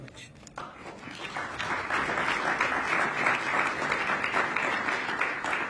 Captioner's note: applause